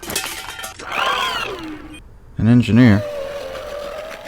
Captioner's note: frightened alien sounds